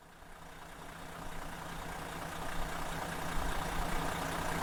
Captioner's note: engine running